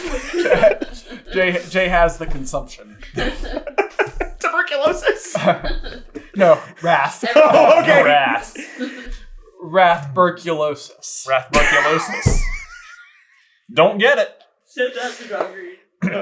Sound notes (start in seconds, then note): 4.8 giggling; 12.7 wheezing